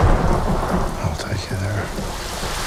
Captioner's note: thunder rumbles